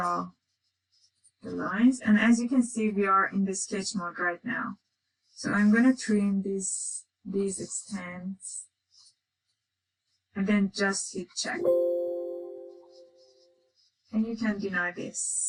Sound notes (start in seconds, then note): 11.6 computer chiming